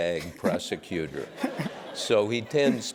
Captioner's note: laugh